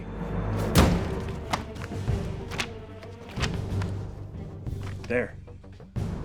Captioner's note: dramatic music continues; pages rustling